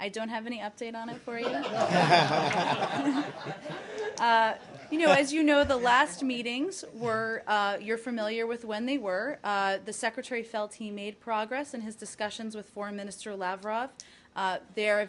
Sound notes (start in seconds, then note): 3.5 laughter